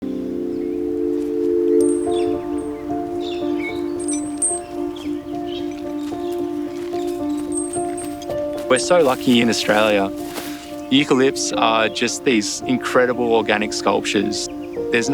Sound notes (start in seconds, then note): 0.0 tranquil music; 1.4 birdsong